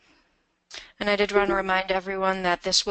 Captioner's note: voiceover